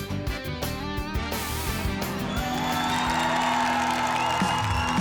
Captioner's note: applause and cheering